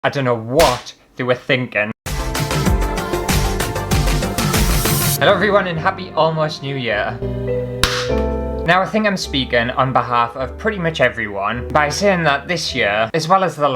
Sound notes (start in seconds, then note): 0.6 slap; 2.0 intro Music; 7.8 pop!